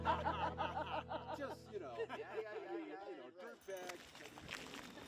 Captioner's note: chatter